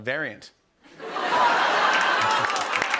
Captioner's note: laughter and applause